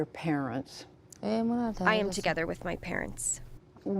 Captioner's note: through translator